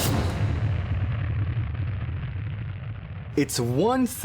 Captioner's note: explosion